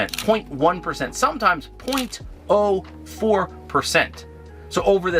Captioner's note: camera shutter clicks